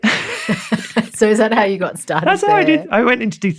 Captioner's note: laughs